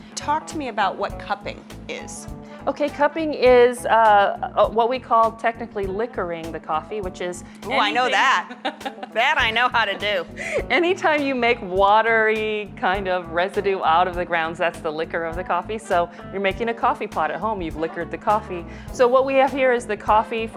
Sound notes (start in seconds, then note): 8.1 laughing